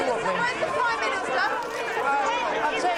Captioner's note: reporters clamoring